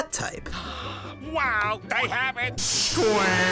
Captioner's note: gasp